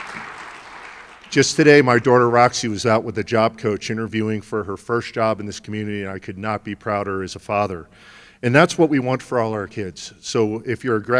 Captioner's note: applause